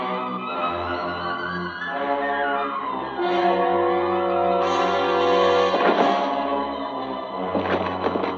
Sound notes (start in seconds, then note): 5.7 body thudding